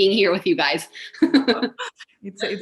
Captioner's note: laughs